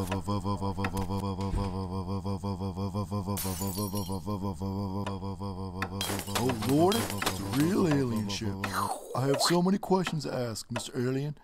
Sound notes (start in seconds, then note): 0.0 footsteps; 1.3 door close; 3.4 bottle break